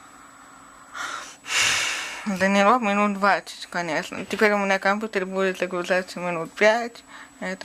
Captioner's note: sigh